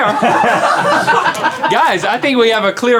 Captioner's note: and crew laugh